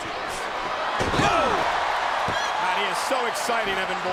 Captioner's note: crowd cheering